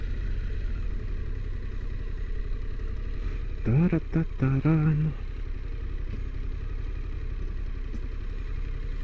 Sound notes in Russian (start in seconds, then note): 3.6 напевает песню